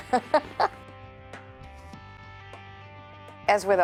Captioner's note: laughter